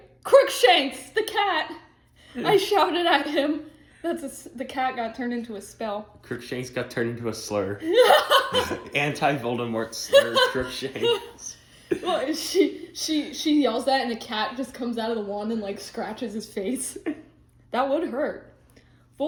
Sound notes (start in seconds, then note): 7.8 laughing